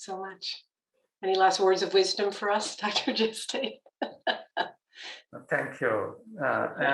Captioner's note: laughter